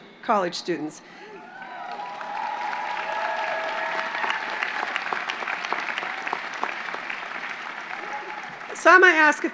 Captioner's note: applause